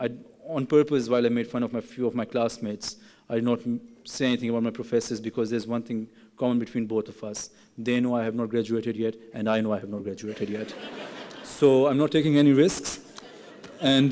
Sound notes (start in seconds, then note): 10.9 laughing